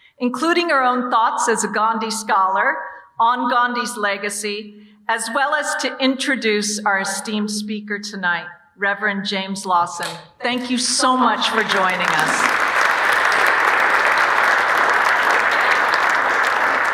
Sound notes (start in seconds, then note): 10.9 audience applauding